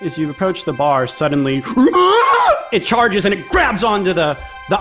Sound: guttural sound

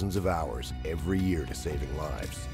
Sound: voiceover

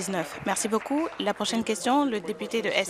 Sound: applause

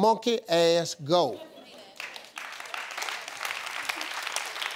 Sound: audience clapping

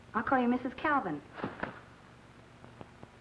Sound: sheets ruffle

